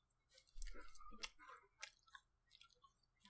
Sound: munch, munch

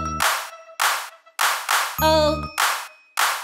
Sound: clap; clap

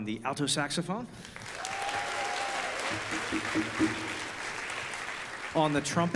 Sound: audience applause

